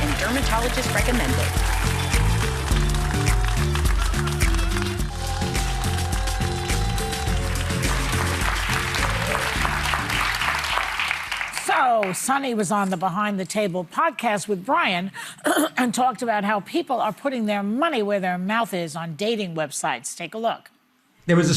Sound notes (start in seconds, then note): 5.3 upbeat music; 9.4 audience applauding